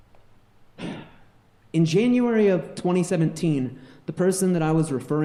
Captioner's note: sighs